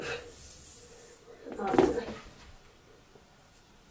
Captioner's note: hair dryer falls again, making weird sounds